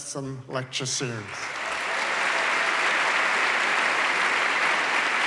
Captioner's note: applause